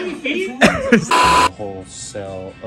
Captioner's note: beep